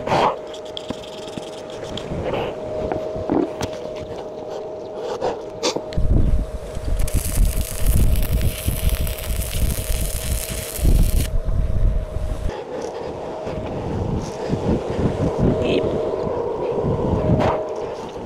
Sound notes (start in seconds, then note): 1.7 wind blowing